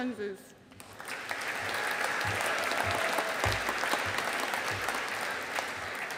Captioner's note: audience applauding